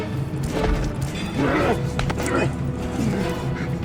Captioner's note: grunts